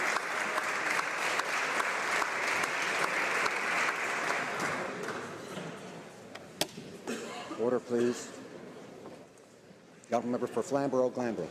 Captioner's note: applause